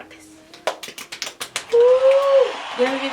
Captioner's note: clapping